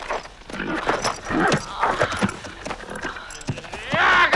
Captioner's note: Hundra groaning; man growls